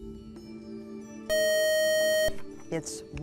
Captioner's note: buzzer